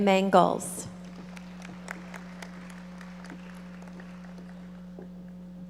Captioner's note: audience applauding